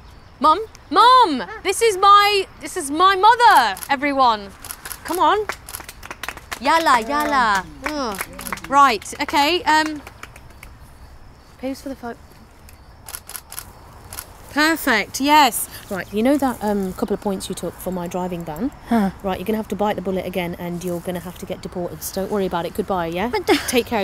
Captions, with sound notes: Mum? Mum! This is my, this is my mother, everyone! Come on! [SMATTERING OF CLAPPING] Yallah, yallah! Right, OK, um. Pose for the pho- [CAMERA SHUTTER CLICKS] Perfect, yes! Right, you know that couple of points you took for my driving ban? Right, you're gonna have to bite the bullet again and you're gonna have to get deported. Don't worry about it. Goodbye, yeah? - But-